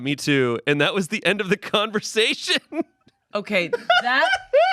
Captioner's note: laughs